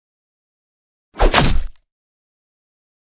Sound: sound of punch

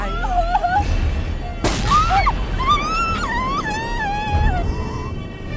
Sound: groans; screams; groans

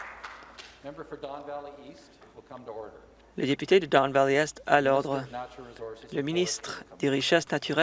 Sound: some Applause

